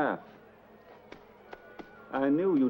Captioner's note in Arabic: ثرثرة غير واضحة من الخارج